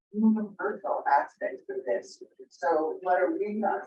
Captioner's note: video makes distorted noises